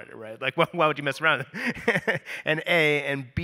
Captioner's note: laughs